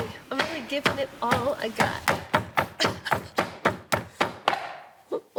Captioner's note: pounding